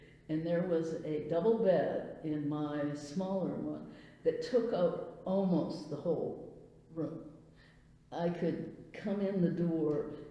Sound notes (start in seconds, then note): none